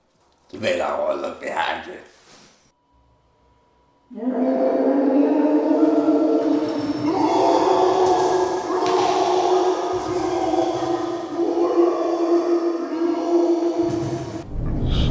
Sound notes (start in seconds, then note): 4.1 Polmen's cries of the damned